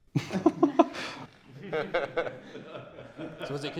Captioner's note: laughter